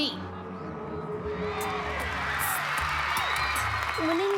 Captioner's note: applause and cheering